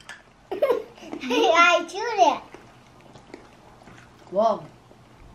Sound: laughs

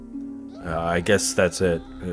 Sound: screams

